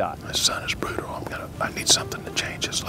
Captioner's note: whispering